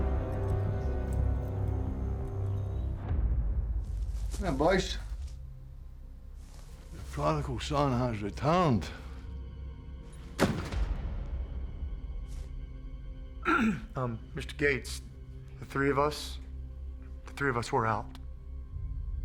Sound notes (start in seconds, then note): 4.6 scottish accent; 13.4 clears throat